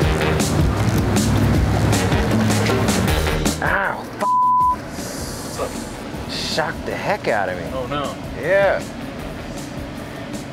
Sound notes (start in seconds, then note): 4.2 beep